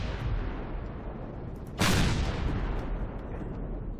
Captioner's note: rockets firing